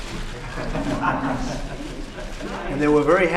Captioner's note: laughter